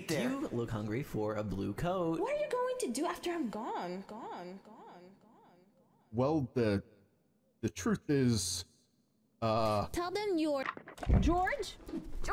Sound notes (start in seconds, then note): 5.9 stammering; 10.6 microphone rattling